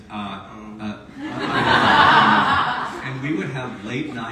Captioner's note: audience laughs